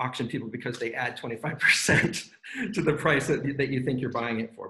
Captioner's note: laughs